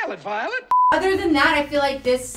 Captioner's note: beep sound